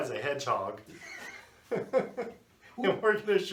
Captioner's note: laughing